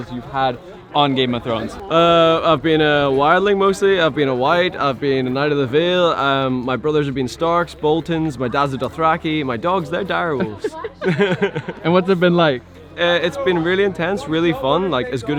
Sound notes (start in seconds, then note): 10.4 laughing